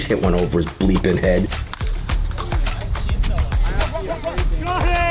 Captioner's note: in-field chatter